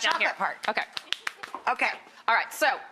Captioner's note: claps